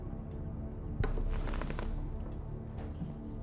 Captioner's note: deep tense music continues; chair creaking; footsteps thudding